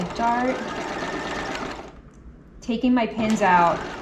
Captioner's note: sewing machine whirling